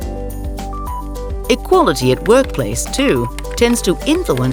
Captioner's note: keyboard clacking